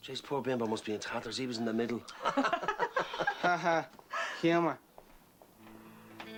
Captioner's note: Reír